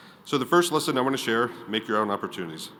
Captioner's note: none